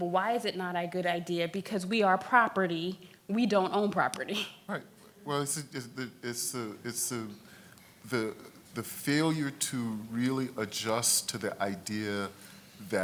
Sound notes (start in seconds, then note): 4.4 laughs